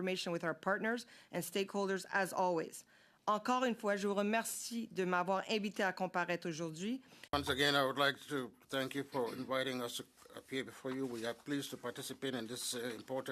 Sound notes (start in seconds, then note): 12.1 speaking French